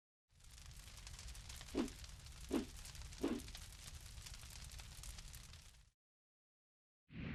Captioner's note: sound of a fire burning